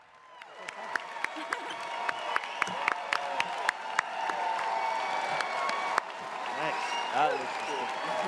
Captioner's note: audience cheers, applauds